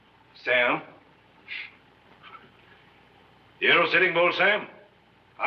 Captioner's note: chuckles